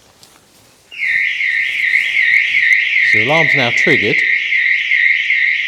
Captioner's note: alarm goes off